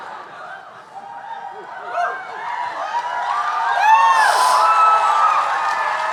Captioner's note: audience laughing; audience cheering and applauding